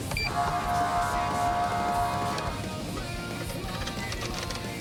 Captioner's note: horn blaring